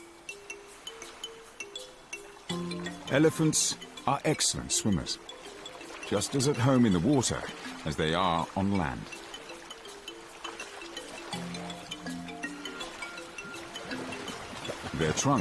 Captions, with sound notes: just as at home in the water as they are on land. (peaceful music) (water splashing) Their trunks act as built in snorkels, allowing them to breathe as they navigate the deep channels.